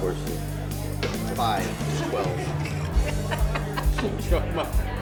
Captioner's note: laughing